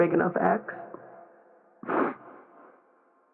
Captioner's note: sobbing